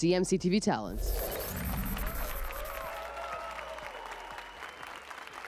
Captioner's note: applause and cheers